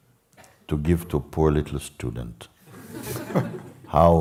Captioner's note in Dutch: gelach